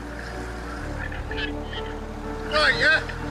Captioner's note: tractor droning; water whooshing